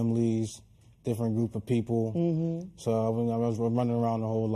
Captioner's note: none